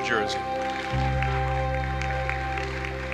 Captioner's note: applause